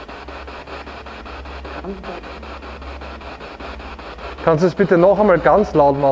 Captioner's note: noise of the spiritbox in the background